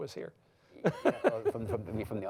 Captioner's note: laughs